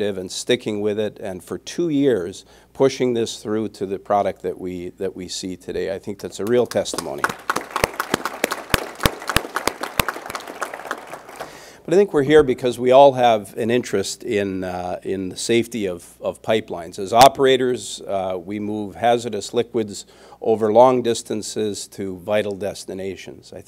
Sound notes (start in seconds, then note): 6.8 applause